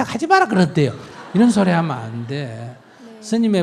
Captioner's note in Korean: 청중 웃음